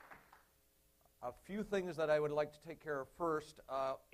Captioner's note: applause